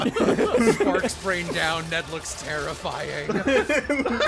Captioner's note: sparking sounds